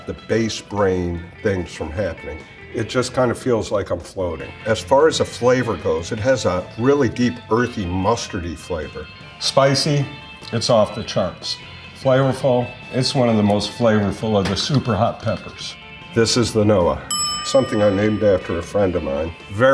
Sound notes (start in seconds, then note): 17.0 bell dings